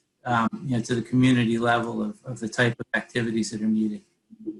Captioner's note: none